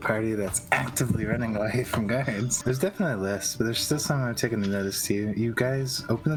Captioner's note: none